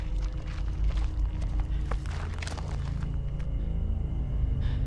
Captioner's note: footsteps crunching